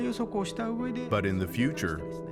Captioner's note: speaking Japanese